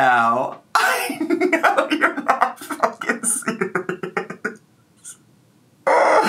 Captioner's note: laughs